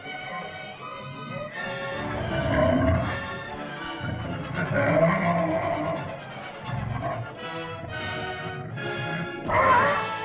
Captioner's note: dinosaur moans & growls; dramatic music; dinosaur growls; dinosaur cries out